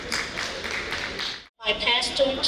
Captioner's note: audience applauding